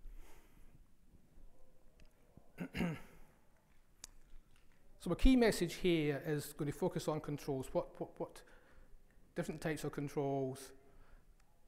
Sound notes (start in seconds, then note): 2.6 coughs